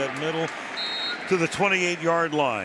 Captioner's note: whistle blows